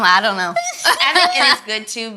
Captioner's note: all laugh